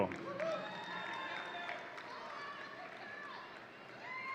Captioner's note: audience cheering